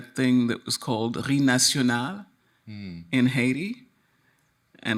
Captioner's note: speaks in foreign language